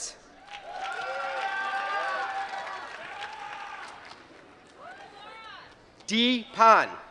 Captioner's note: applause